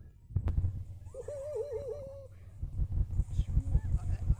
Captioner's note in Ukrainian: сміється